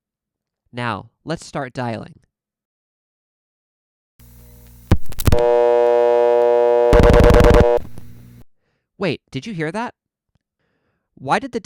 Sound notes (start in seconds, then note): 4.2 buzz, 7 loud pulses, buzz stops